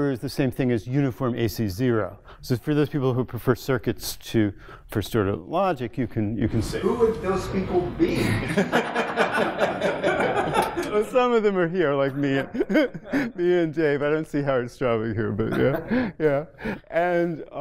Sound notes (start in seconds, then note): 8.4 laughter